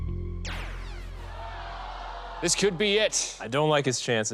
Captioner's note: zap